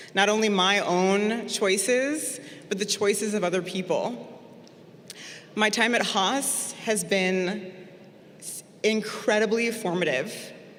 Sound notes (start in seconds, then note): none